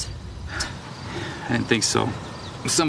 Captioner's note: sighs